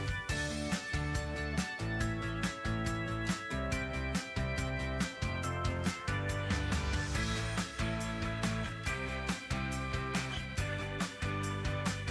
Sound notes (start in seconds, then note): none